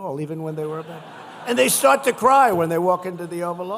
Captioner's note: laughter